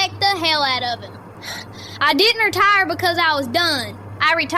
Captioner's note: breath